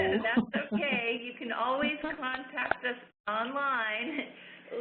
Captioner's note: chuckles